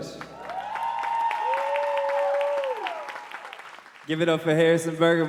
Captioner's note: audience cheering and applauding